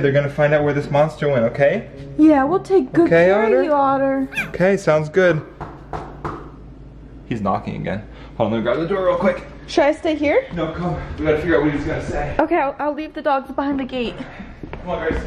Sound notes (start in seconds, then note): 5.4 door knocking